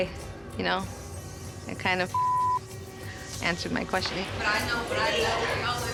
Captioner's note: beep